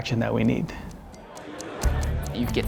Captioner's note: ticking